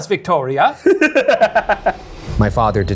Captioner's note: laughs